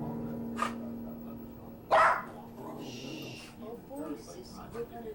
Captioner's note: dog Barking